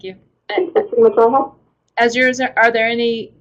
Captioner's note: voiceover